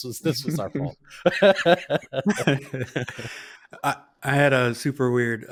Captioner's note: laughing